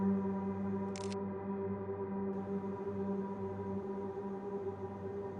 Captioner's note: camera clicking